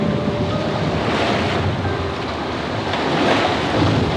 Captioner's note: waves crashing